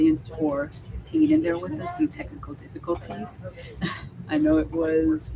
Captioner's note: chuckles